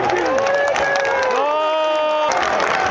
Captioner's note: crowd applauding in support